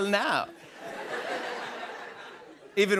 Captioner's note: laughter